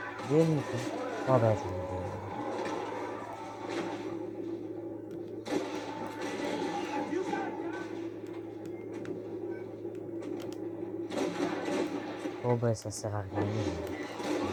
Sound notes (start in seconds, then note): 0.0 music and screams of zombies; 2.3 sounds of composure and pulls